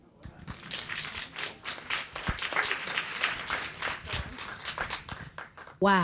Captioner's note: appluase